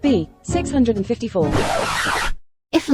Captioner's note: record scratching backwards